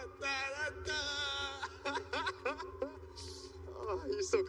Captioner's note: laughter